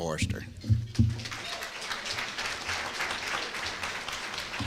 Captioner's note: applause